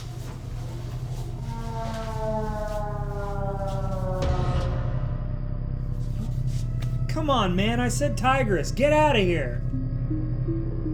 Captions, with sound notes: [ EERIE SOUND CONTINUES ] Come on man I said Tigris, get out of here.